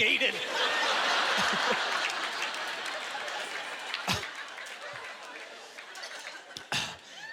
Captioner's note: audience laughter